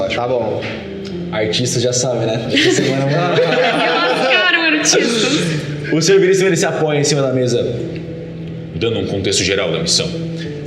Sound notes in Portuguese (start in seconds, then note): 2.5 risadas